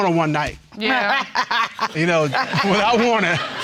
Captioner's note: laughing